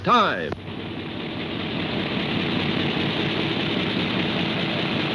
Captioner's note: refrigerator thrumming